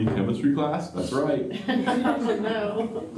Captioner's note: laughter